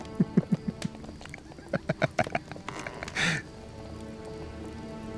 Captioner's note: chuckles